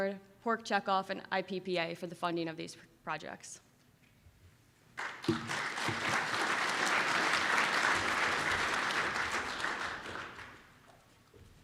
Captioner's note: round of applause from audience